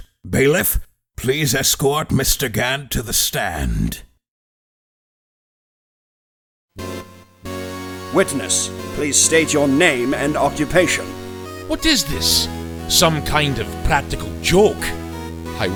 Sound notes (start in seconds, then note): none